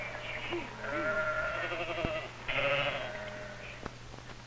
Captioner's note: sheep baaing